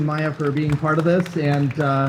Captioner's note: audience applauding